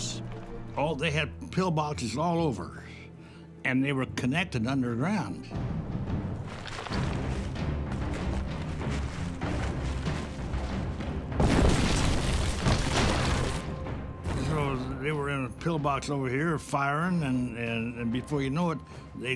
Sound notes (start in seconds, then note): 5.7 dramatic ominous instrumental music; 11.3 cannon shot exploding